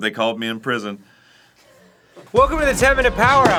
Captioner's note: absolute silence